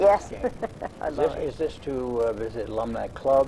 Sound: laughs

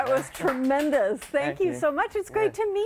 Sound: applause

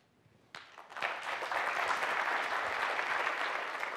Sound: applause

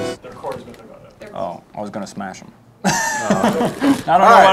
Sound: chuckles

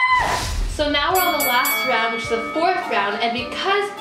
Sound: whooshing; dinging

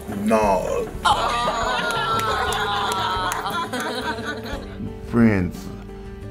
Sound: cheering and laughing

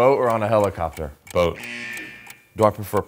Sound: buzzer blaring

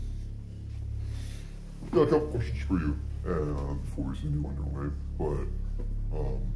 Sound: none

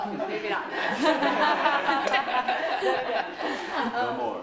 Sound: laughter

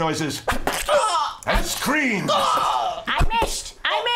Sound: stabbing noises and screams

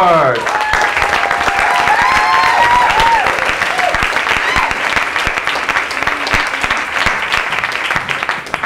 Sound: applause

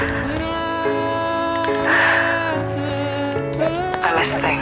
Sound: sighs

